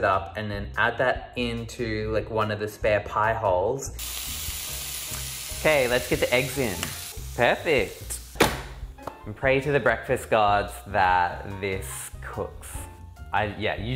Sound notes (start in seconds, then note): 3.9 sizzling; 8.4 thud